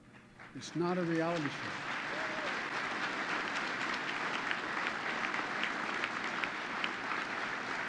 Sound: applause

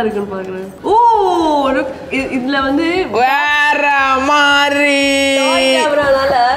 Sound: shouting out of joy

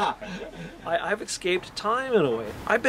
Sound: laughs loudly

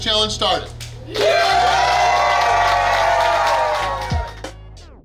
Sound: cheering & Clapping

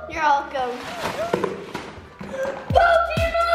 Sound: paper ruffling

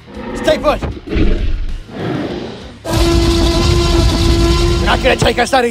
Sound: T-Rex Roars Loudly

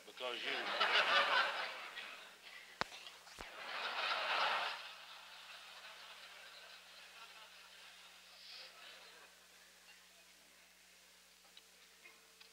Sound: laughter

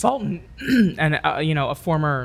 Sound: clears the throat

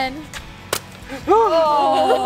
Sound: balloon pops

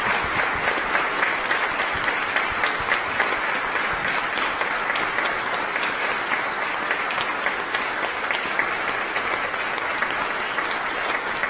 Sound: applause

